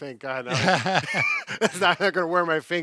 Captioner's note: both laughs